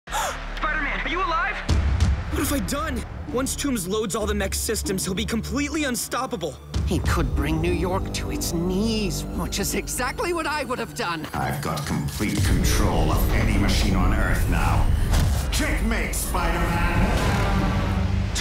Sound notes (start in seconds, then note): 0.1 gasps